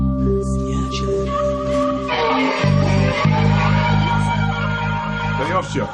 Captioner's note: distorted noises